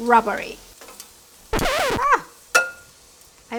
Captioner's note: record screeches